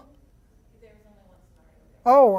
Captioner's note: voiceover